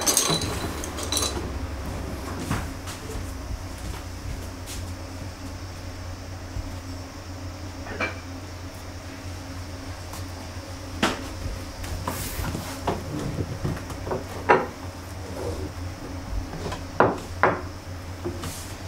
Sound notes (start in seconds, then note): 0.0 sound of tableware being put down; 14.0 sound of tableware being put down